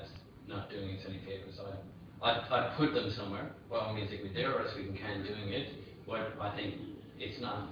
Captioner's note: audio distorts